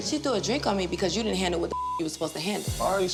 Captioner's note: beep